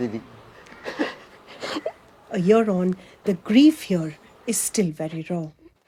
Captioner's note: cries